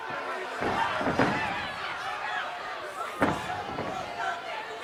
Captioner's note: audience shouting